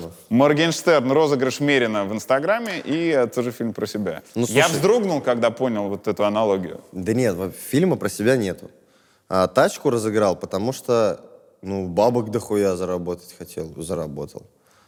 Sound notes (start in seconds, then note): none